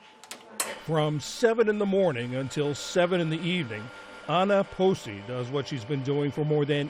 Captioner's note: voice-over